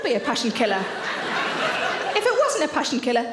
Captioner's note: audience laughing